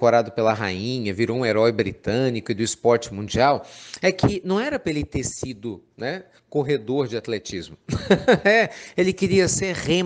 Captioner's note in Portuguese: Risos